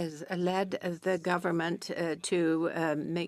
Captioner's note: speaking French